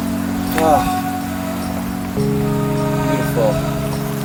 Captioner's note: calm electronic music; sighs